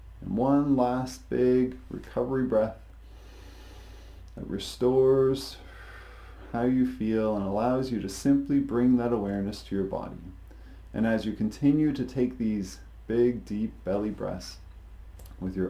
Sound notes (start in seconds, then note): 3.0 inhales deeply; 5.6 exhales deeply